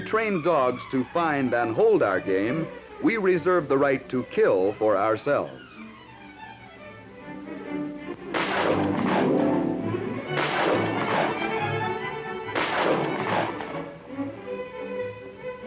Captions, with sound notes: But though we train dogs to find and hold our game, we reserve the right to kill for ourselves. (gunshots)